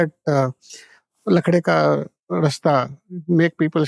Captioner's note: speaks in Hindi